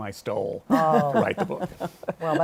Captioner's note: chuckles